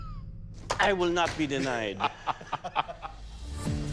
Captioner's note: laughter